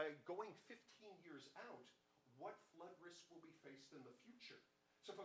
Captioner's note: none